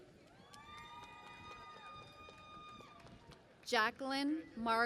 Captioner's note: cheering and Applause